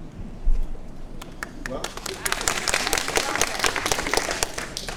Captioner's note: audience applauds